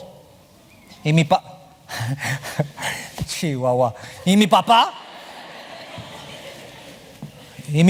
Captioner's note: spanish